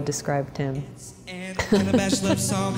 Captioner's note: laughs